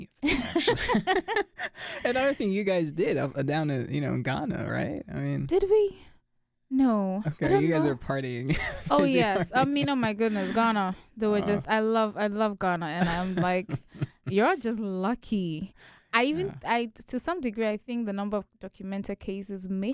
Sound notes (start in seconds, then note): 0.2 both laugh; 8.4 chuckles